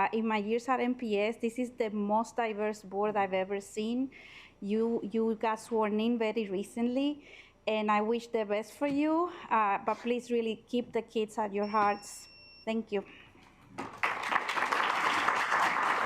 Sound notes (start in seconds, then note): 11.5 alarm beeping; 13.7 assembly clapping